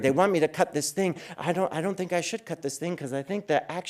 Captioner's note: none